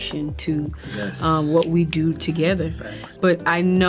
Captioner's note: John David snaps finger